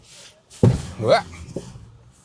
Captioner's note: truck thuds